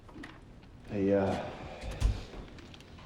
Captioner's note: exhales